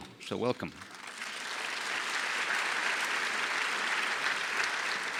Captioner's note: audience applause